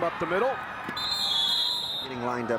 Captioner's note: whistle blows